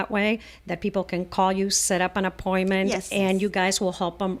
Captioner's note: Hablando ingl\s